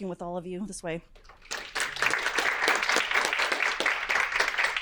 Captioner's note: audience clapping